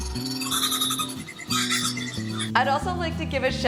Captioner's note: bird chirping